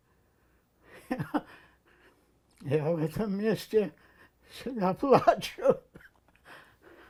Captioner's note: laughing